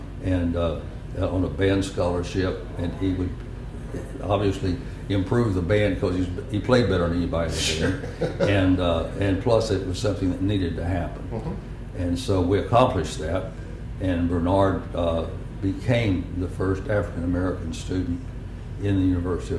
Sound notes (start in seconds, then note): 7.6 laugher